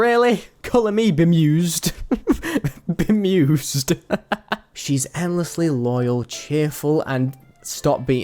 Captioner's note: laughing